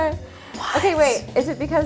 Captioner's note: gasps